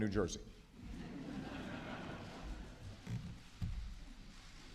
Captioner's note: laughter